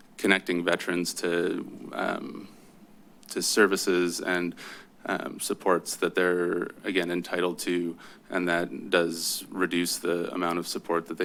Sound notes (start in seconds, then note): none